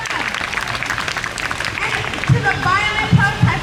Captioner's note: crowd cheers